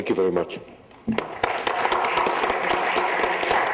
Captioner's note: applause